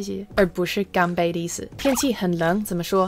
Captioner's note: drinks